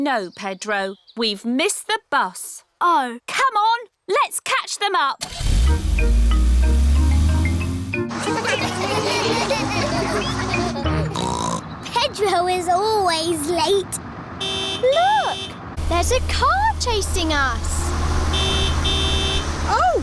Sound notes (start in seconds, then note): 8.2 laughter; 10.9 snorts; 16.6 horn honks; 17.7 honking continues